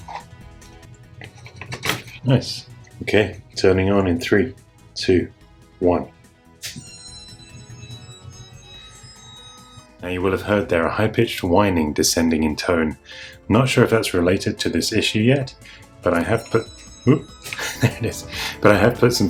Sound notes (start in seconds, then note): 6.7 deflating balloon noise; 16.2 deflating noise again